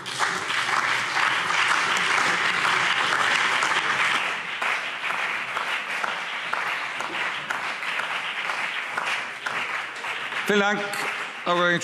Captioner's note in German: Beifall BÜNDNIS 90/DIE GRÜNEN, CDU und DIE LINKE